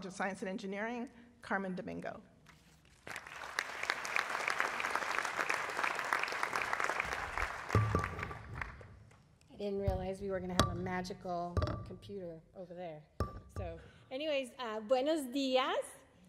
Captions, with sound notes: of science and engineering, Carmen Domingo. [ Applause ] >> I didn't realize we were going to have a magical computer over there. Anyway, buenos diaz.